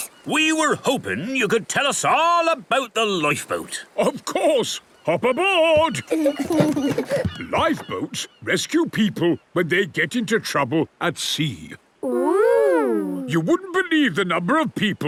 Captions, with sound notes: - We were hoping you could tell us all about the lifeboat. - Of course! Hop aboard! (both giggle) Lifeboats rescue people when they get into trouble at sea. - Ooh! You wouldn't believe the number of people